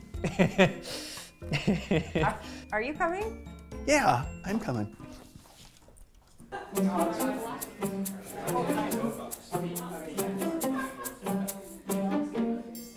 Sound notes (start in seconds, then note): 0.2 laughs; 6.6 teens chattering